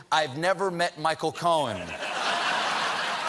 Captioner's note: laughter